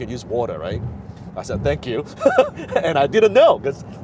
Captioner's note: laughs